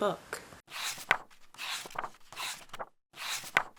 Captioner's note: pages turning